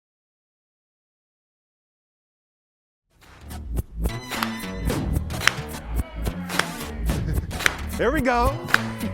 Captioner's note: applause